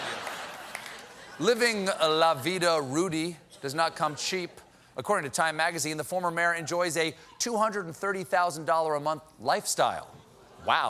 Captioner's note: laughter